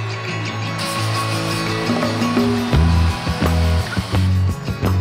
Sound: smoke blasting

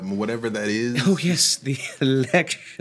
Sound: chuckles

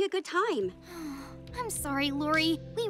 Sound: sighing

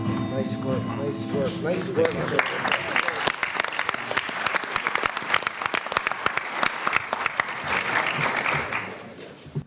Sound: applause

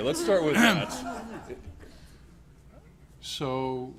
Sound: laughter

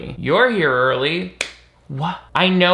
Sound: Nick claps

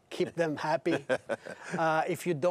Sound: hosts laugh

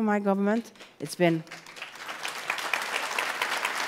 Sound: applause

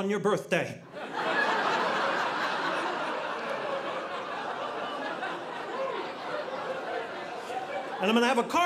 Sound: audience laughing

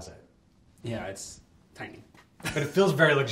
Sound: laughs

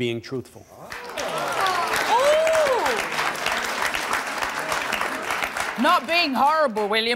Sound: audience gasping

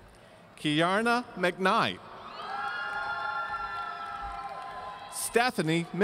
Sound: audience cheering

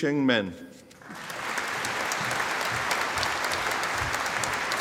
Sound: audience applauding

